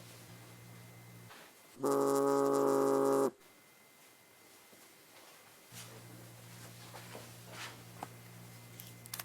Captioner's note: phone buzzes